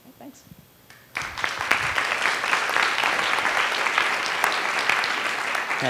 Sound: applause

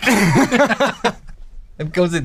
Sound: laughter

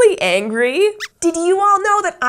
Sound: squeaks squeaks

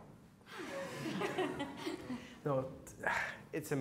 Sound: laughing

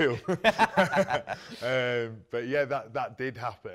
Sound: both laugh

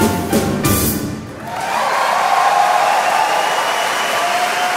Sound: audience cheering

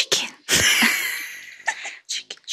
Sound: laughing

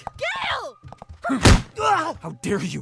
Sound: grunts; punch

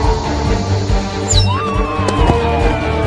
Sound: whistle of bomb falling

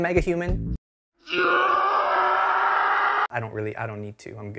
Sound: gutteral scream of infinite horror

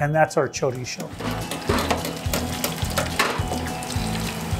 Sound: basket clanging in fryer

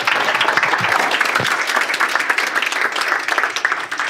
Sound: audience clapping

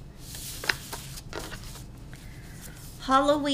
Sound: papers shuffling

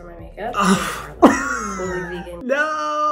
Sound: Hyram laughing

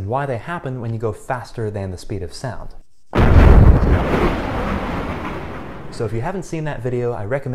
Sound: sonic Boom

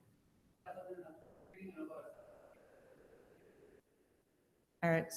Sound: speaking faintly

